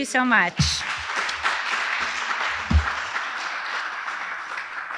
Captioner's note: audience applauding